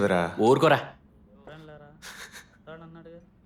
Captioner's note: chandraprakash chuckles